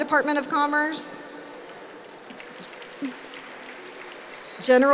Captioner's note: applause